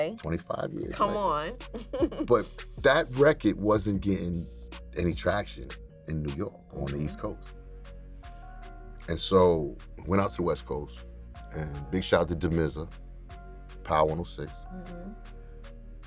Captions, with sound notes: - 25 years. - Come on. - [CHUCKLES] But that record wasn't getting any traction in New York on the East Coast. And so we went out to the West Coast, and big shout out to Damizza, Power 106.